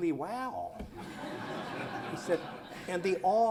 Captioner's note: laughter